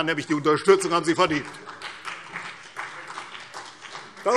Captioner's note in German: Vereinzelter Beifall CDU und BÜNDNIS 90/DIE GRÜNEN